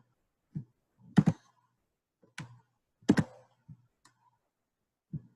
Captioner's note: keyboard keys clicking